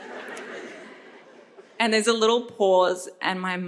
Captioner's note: audience members chuckle